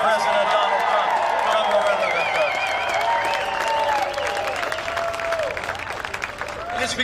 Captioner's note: cheering and applause